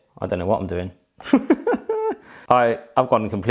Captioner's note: laughing